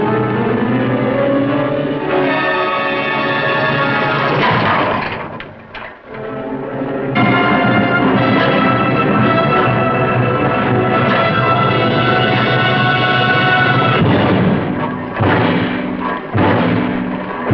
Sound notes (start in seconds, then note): 3.4 hammering; 9.8 dramatic Music